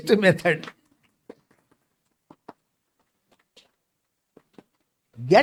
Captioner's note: claps